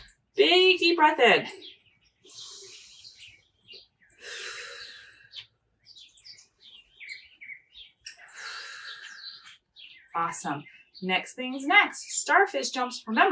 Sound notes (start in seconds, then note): 2.3 inhaling; 4.2 exhaling; 6.0 inhaling; 8.3 exhaling